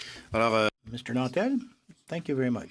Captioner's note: speaking in french